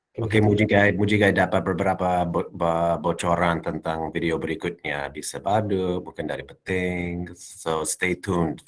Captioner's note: non-english speech